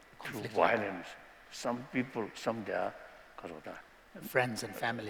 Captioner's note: non-english; non-english